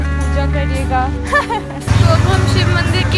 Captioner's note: giggles